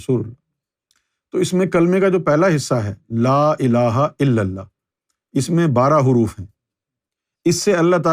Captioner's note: in Arabic